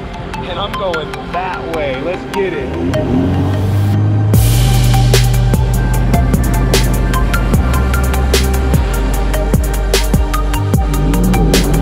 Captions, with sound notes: and I'm going that way. Let's get it! (techno music) (engine running)